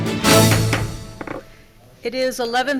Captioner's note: gavel bangs